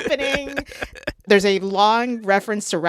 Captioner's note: laughter